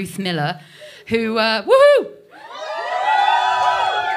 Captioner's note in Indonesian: bersorak